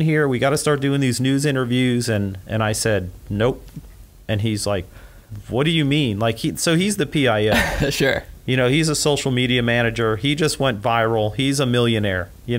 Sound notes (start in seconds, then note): 7.5 laughs